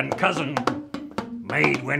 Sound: bamboo bonks

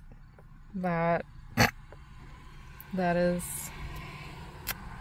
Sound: snorts

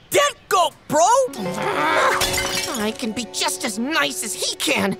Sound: growling

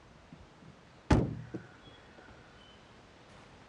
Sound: car boot slamming; birds chirping

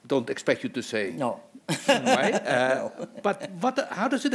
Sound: laughs

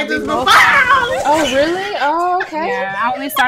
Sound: starts to scream

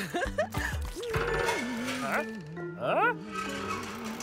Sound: humming

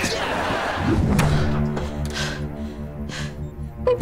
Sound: gasping

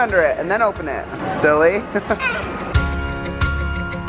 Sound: laughs

